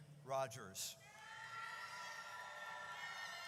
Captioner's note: audience cheers